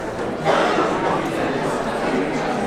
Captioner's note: audience chattering